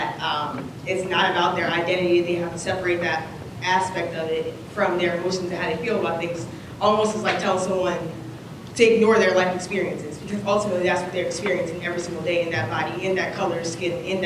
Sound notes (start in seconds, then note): none